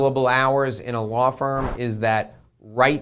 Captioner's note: air whooshing